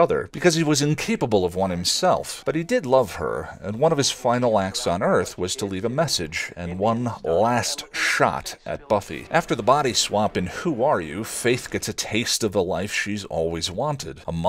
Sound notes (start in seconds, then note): none